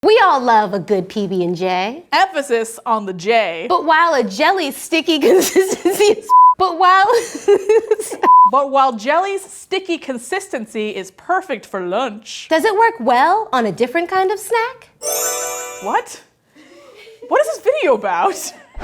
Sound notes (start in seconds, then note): 5.7 laughing; 6.2 beeping; 7.8 laughing